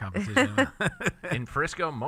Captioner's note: laughter